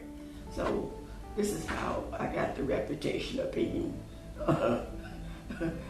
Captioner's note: laugh